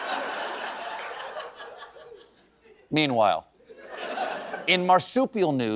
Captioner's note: laughter